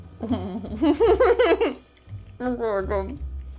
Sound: laughs

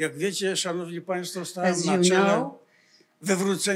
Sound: foreign language

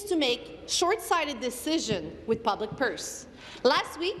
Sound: speaking in french

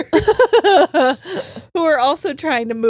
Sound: both laughing

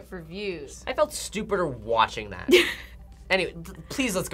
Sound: React laughs

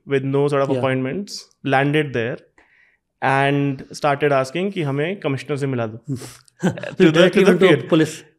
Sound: speaks in Hindi

